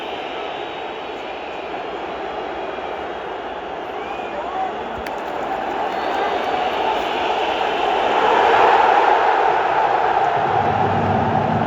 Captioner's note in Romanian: Aplauze